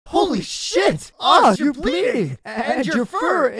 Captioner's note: none